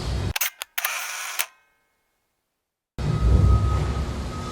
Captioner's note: camera shutter clicks